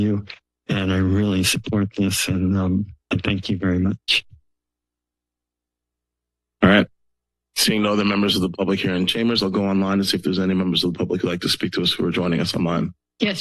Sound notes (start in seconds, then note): 4.3 silence